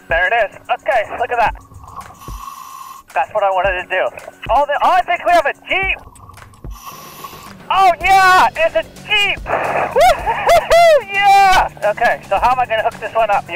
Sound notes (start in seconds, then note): 1.6 air hisses; 6.0 air hisses; 10.0 cheers